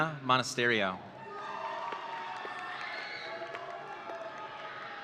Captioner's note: audience cheering